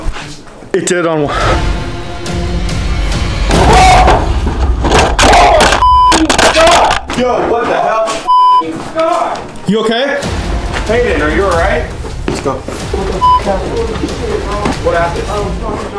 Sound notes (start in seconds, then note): 0.3 gasps; 3.5 screams